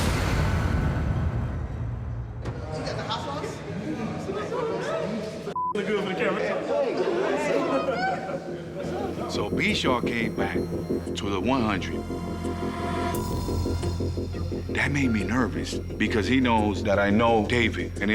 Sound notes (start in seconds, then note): 0.0 suspenseful music; 5.5 beep